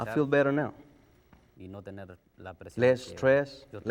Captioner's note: speaking spanish